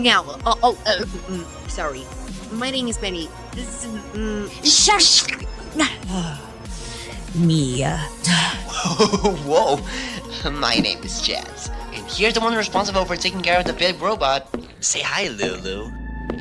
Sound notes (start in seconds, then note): 6.0 sigh